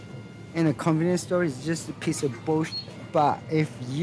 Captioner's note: beep